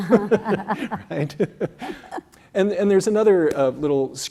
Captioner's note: laugh